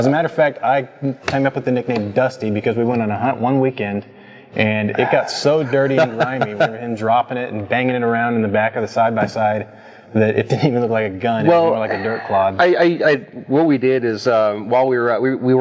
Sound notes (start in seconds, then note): 4.8 laughs